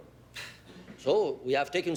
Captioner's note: Louise scoffs